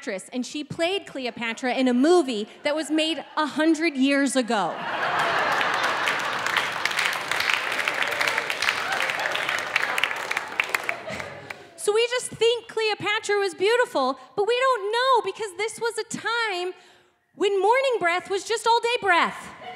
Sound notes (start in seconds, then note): 4.5 audience laughing; 7.3 audience clapping